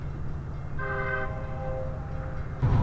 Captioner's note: train whistle